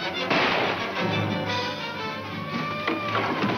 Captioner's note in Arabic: صافرات الإنذار تنطلق